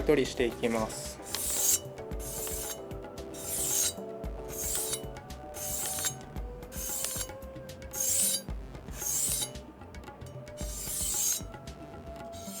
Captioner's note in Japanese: 新聞紙の音